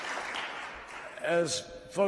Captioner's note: applause